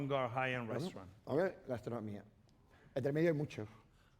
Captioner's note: speaking spanish